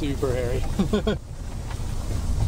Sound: nervous laugh

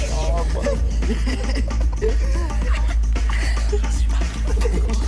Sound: laughter

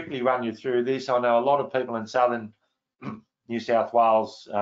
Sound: clears throat

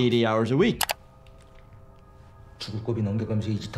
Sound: faint dramatic music; mouse clicks; man speaking in foreign language

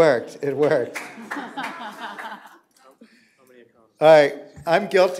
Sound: applause; laughter

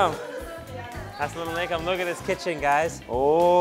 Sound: foreign language

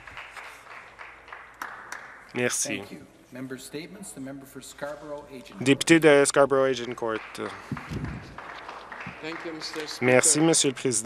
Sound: some Applause

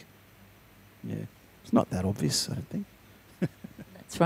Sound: chuckles

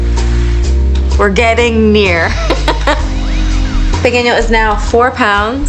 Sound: laughs

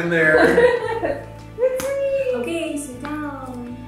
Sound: laughs

